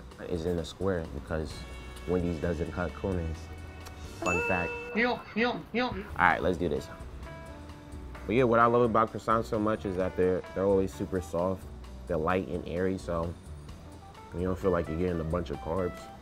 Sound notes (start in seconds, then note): 4.2 bell dings; 4.7 exclaims